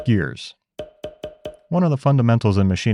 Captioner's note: gears popping